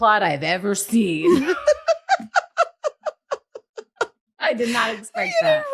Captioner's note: laughing